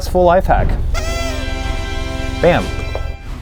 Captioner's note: party hat sound